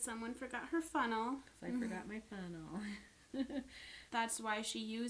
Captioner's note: laughs